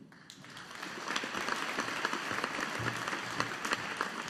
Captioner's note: audience applauding